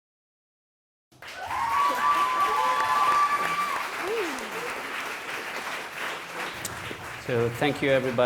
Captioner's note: applause